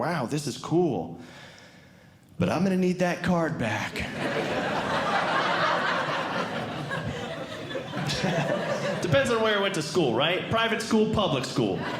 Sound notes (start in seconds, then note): 4.1 audience Laughing